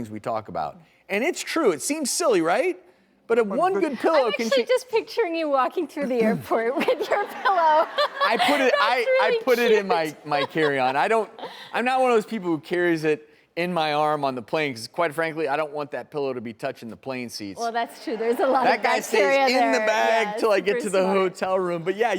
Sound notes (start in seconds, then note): 6.7 laughs